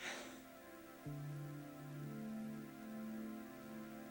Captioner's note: sighs